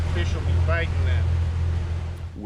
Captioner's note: boat engine running